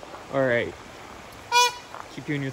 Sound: honk :D

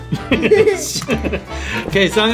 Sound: both laughing

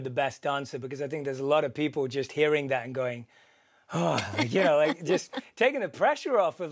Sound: exhale

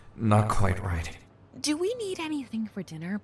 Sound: in Female Passerby’s voice

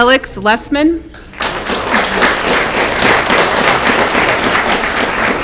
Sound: audience clapping

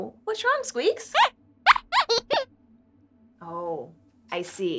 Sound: squeaks squeaks

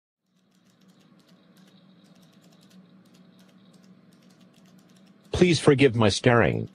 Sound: office sounds

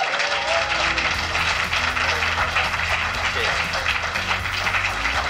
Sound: applause, cheers

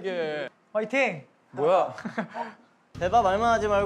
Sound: emotionless

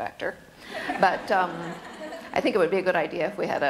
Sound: laughter

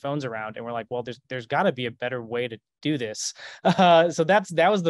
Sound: chuckles

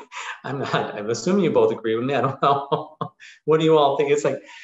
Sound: laughing

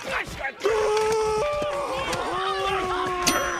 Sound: yelling; ding

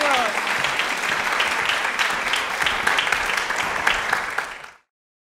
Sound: crowd applauds

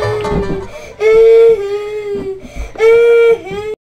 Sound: awesome banjo music; crying

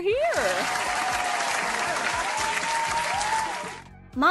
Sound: applause

